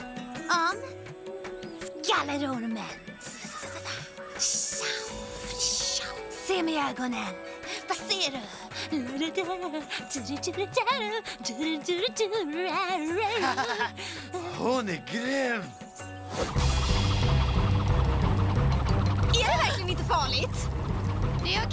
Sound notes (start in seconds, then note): 4.3 imitating rattlesnake; 8.4 singing